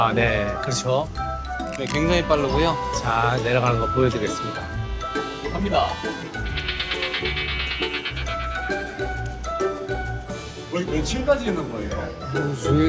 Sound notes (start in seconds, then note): 6.2 exerting